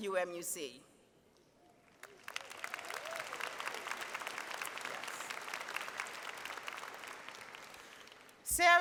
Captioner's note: applause